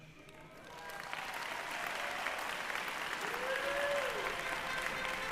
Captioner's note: applause